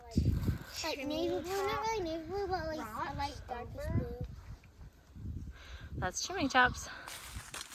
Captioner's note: kids talking